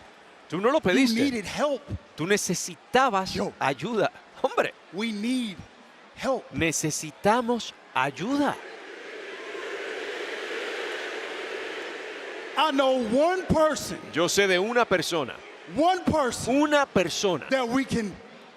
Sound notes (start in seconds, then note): 8.8 applause